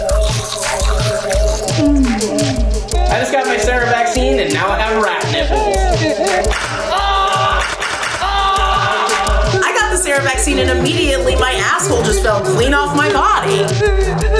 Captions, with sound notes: (moans) - I just got my Sarah vaccine and now I have rat nipples. (screams) - I got the Sarah vaccine and immediately, my asshole just fell clean off my body.